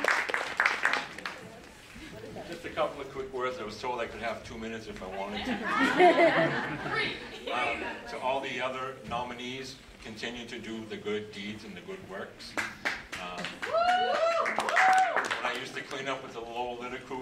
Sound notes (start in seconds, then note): 0.0 applause; 5.3 laugh; 12.5 applause